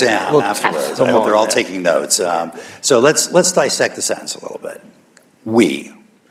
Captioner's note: laughter